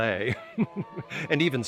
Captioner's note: laughs